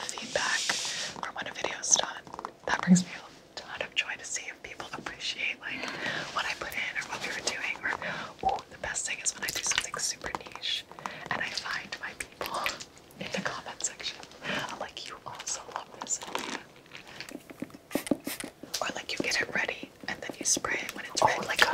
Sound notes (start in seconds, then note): 17.9 spray bottle squeaks